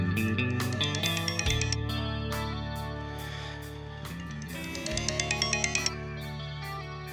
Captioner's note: phone ringing